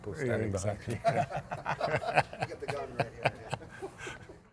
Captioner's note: both laugh